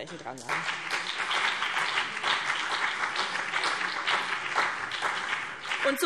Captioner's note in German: Beifall BÜNDNIS 90/DIE GRÜNEN und CDU